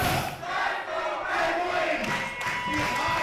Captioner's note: crowd; clapping